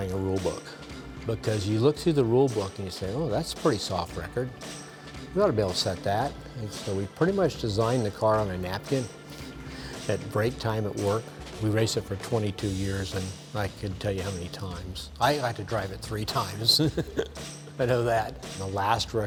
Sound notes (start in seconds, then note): 9.4 upbeat music; 16.7 laughs